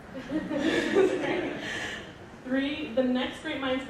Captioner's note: audience laughing